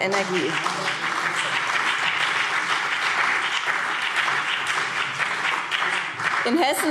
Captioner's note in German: Beifall BÜNDNIS 90/DIE GRÜNEN und vereinzelt CDU